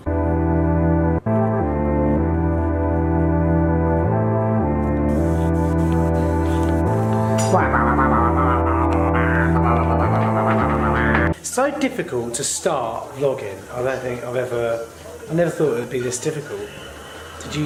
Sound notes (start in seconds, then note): 0.2 soothing music; 7.4 funny noise